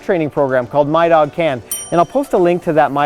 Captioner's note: ding